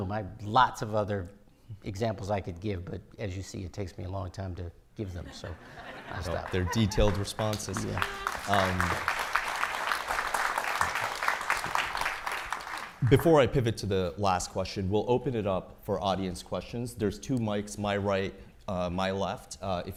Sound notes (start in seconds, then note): 8.6 audience applauding